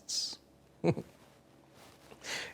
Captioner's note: chuckles